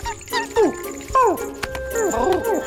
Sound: mouse squeaks; yelps

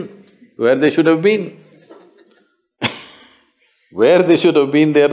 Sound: laughter

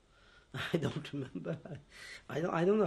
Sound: laughs

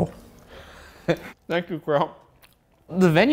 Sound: laughs

